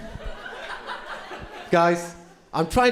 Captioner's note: crowd laughing